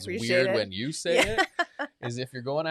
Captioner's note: laughs